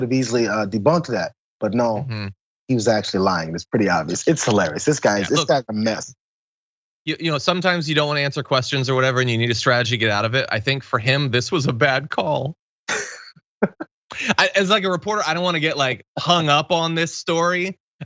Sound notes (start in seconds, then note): 13.6 laugh